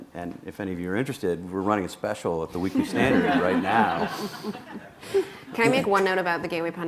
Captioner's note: laughter